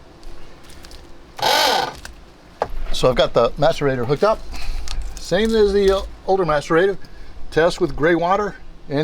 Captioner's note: sound of motor